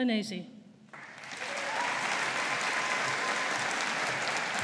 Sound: audience applauding

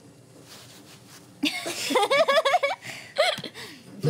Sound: laughter

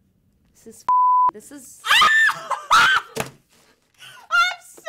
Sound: beep; shrieking

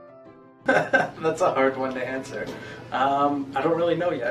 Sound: laughter

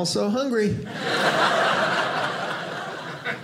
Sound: audience laughing

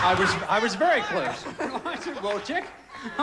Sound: audience laughing

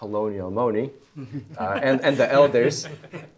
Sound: all chuckling

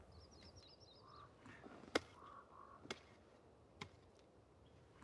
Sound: birds chirping

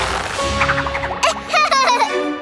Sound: laughing

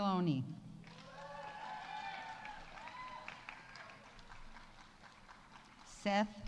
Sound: audience applauding; audience cheering

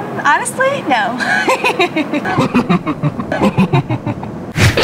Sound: laughing

